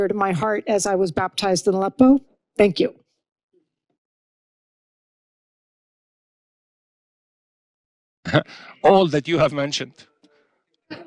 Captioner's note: laughs